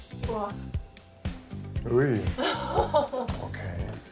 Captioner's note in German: Erstauntes Lachen